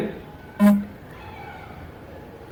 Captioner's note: mobile vibrates